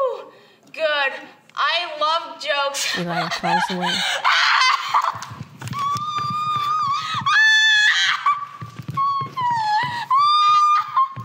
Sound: screaming laughter

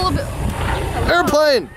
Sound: engine

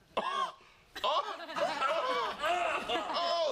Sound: coughing; mocks coughing

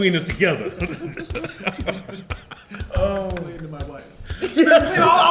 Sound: laugh

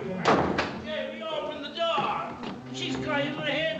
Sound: door rattles

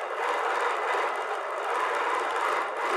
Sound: sewing machine whirring

